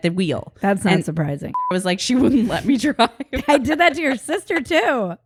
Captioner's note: beep